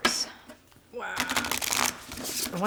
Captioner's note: cards rustle